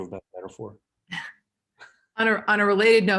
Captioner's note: laughs